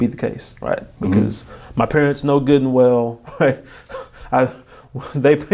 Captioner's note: laughing